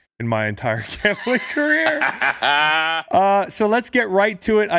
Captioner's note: laughing